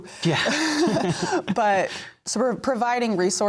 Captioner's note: laughter